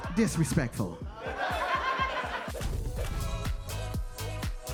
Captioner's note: audience laughs